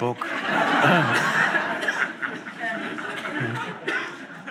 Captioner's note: audience laughs